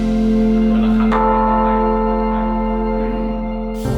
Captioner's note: bell rings; เสียงระฆัง